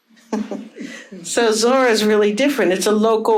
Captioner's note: chuckles